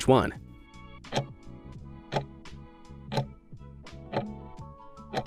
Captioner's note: timer ticking